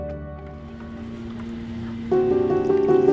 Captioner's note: machinery whirring